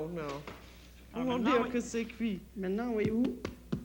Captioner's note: speaks French